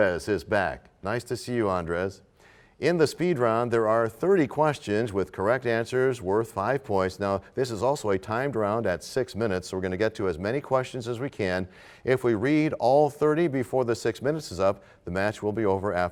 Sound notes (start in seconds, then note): none